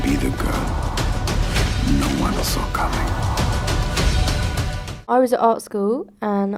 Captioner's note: voiceover